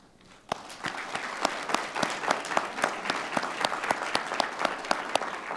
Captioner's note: audience applauding